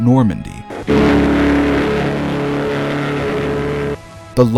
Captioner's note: horn Blast